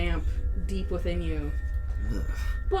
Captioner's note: makes another in-character "ugh"